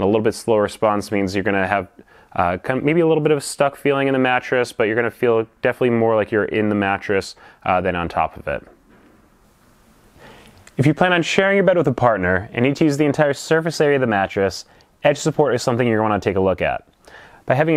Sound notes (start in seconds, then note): 8.5 pause